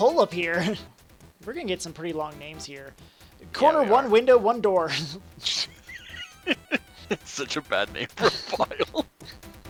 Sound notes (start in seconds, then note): 5.4 laughs